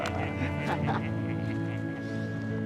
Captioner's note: laughter; gentle music